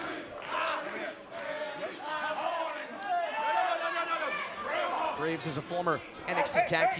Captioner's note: fans chanting